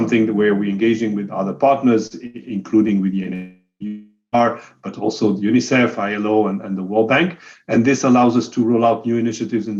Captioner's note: audio skipping